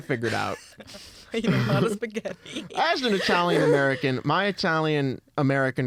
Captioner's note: laughing